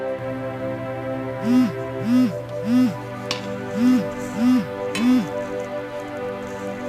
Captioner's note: phone ringing